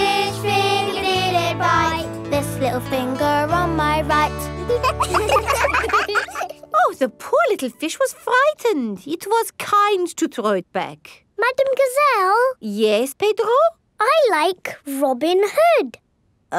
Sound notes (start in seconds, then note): 4.6 children laugh